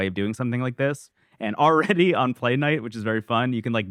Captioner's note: laughs